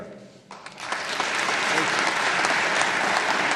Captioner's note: applause